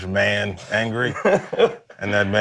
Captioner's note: laughs